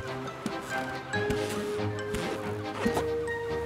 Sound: ball squeaking

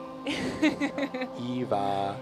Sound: laughs

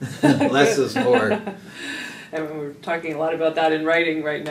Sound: laugh

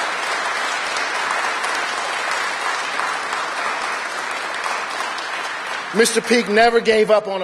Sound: cheers and applause

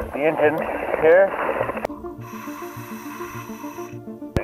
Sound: inhaling air

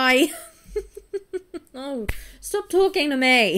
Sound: laughs

